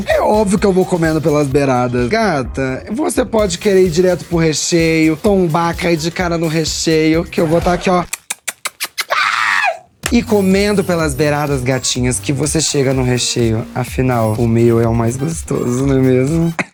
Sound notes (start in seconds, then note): 7.3 nibbling